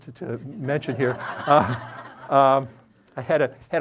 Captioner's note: audience laughing